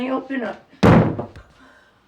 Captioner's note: banging